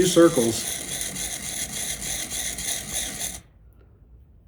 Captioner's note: drill whirring